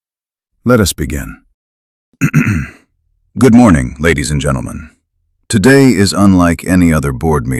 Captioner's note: clears throat